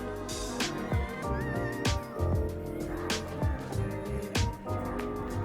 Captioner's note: tears